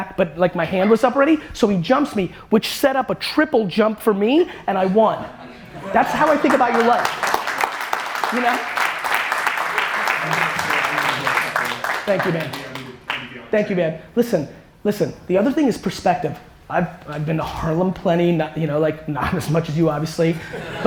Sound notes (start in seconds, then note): 6.0 audience applause